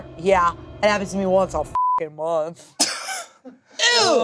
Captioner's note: beep